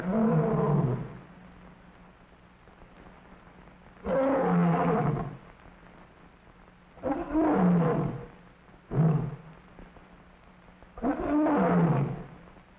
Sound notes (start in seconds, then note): 0.0 lion roaring; 4.0 lion roaring; 7.0 lion roaring; 11.0 lion roaring